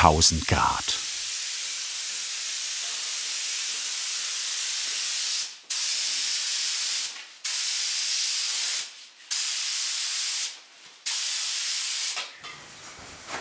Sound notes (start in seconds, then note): 1.5 hiss